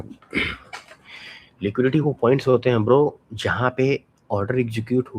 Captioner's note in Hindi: गला साफ़ करने की आवाज़